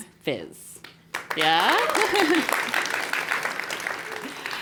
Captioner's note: applause; laugh